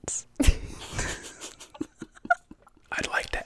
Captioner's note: group laughing